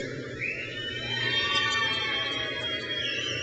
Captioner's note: crowd cheers